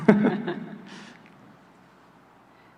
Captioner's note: chuckling